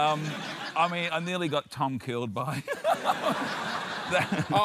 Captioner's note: laughs